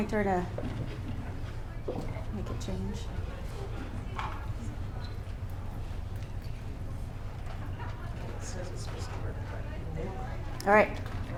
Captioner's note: whispering